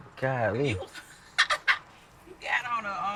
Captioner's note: laughs